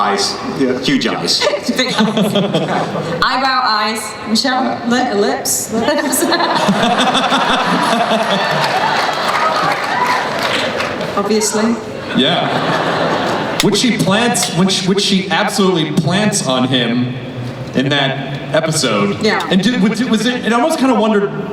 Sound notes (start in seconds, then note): 5.8 laughing